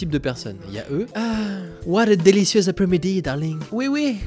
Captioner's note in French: accent anglais